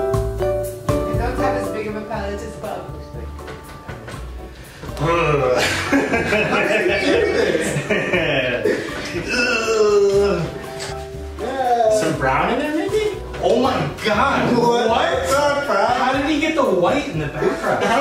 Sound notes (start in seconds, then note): 4.7 discouraged grunt; 9.1 uncomfortable grunt